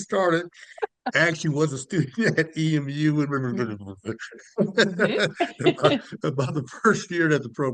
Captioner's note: mumbles